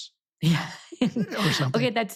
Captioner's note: laughs